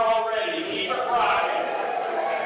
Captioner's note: cheerin